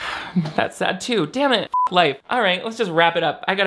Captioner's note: beep